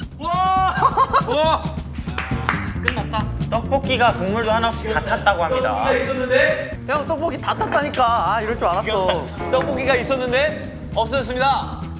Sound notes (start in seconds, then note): 1.8 the are clapping